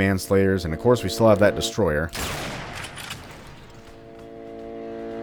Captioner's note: bam